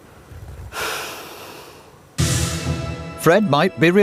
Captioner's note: sighs